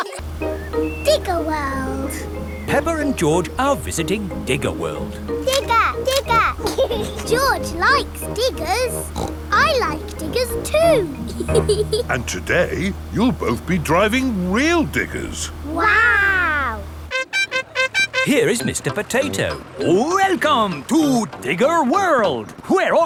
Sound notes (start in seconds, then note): 6.9 laughs; 8.8 snorts; 11.5 laughs